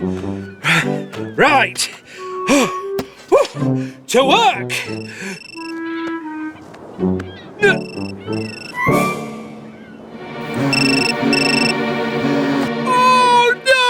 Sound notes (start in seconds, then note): 0.0 suspenseful Music; 5.6 cell Phone Rings; 10.6 ringing Continues